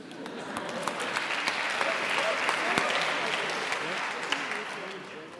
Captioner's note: cheering and applauding